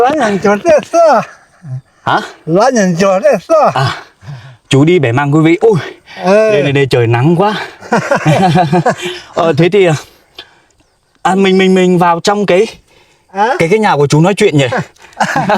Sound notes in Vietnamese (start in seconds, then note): 7.5 tiếng cười; 14.7 tiếng cười